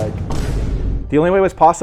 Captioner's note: effect booms